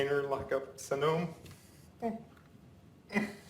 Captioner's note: sobbing